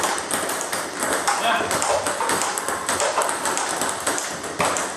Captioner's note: ball ping pong hitting continues